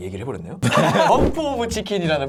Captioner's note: laughing out loud